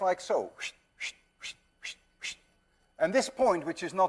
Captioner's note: makes swishing sounds